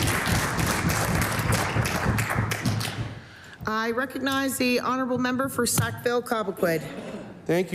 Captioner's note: applause